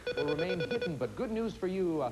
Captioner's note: beep-beep